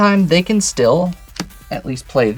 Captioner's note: card slaps